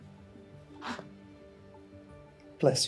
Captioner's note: sneezes